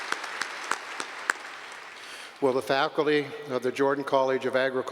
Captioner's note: applause